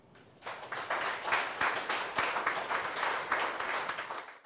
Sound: audience clapping

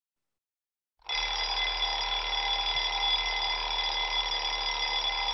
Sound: alarm ringing

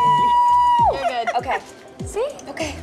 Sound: laughs

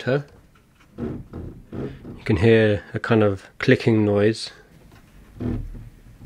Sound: grinding

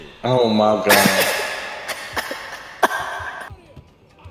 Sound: laughs

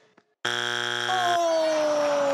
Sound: buzzing sound; crowd claps

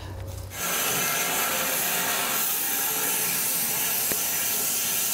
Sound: saw blade humming

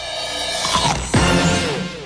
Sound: crunch

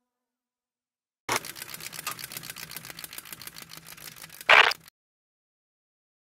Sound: camera shutter noises

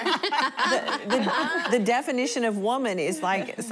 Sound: laughter

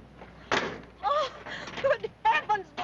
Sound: gasping

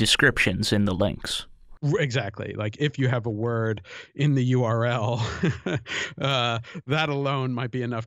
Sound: chuckle

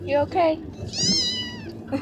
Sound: meow

